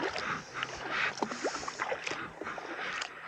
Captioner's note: paddling